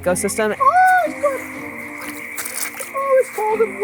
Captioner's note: frogs ribbiting